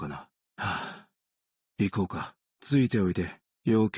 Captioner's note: sigh